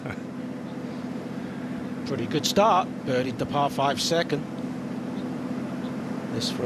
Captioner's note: laughter